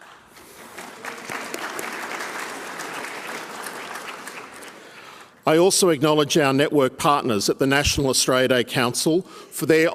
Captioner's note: applause